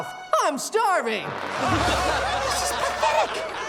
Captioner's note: audience laughing